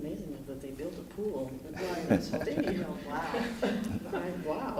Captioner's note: chuckling